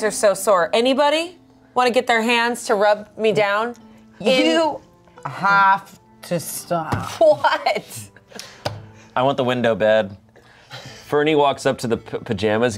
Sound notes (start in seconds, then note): 7.1 laughs